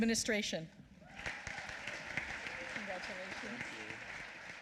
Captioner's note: applause